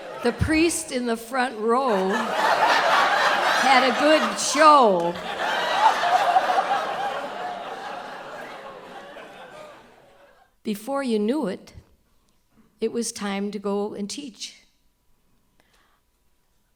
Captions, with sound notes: the priest in the front row had a good show. [Audience laughter] Before you knew it, it was time to go and teach.